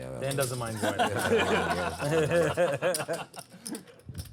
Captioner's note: laughter